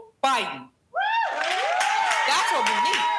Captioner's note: crowd cheering